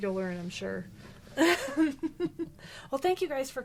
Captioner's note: laughs